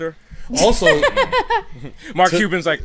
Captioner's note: laughs